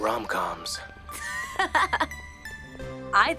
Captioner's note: Mischa chuckles